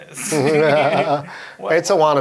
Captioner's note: laughing